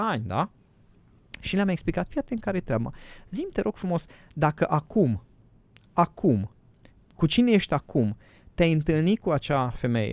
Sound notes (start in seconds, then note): none